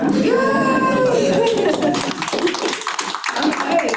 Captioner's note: attendees clapping